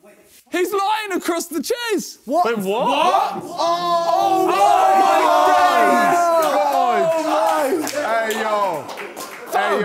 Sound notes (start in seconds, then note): 2.2 men chattering; 2.8 men cheering